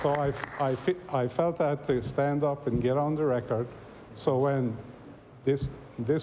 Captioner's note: applause